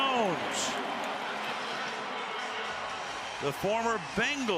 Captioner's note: cheering